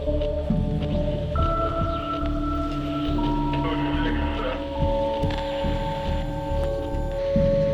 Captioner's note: static over the radio